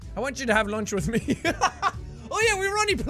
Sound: Jack breaks into laughter

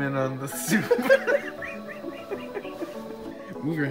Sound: laughter of the damned

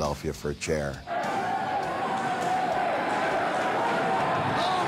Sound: crowd yelling

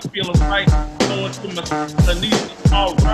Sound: murmurs

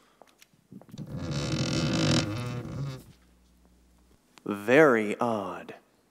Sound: stairs creaking

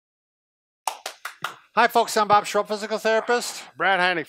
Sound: clapping

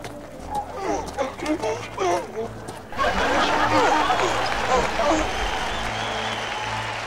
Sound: המון מריע

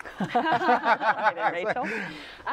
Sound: laughter

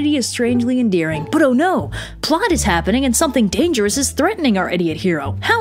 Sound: gasps

